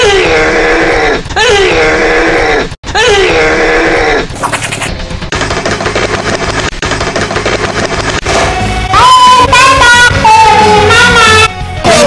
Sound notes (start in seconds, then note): 4.4 demon laughing